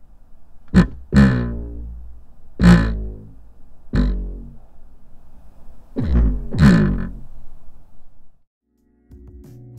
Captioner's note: dualsence vibrates on elektron digitakt dust cover